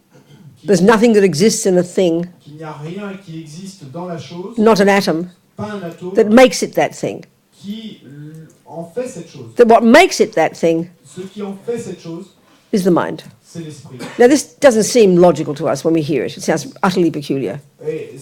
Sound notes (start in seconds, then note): 2.1 French; 8.1 French; 11.1 French